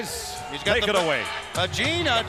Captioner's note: crowd chatter